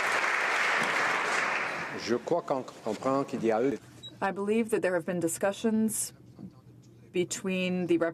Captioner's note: applause